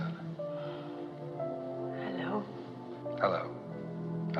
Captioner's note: sighs